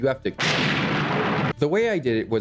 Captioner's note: loud thunder